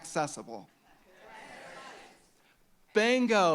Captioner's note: audience shouting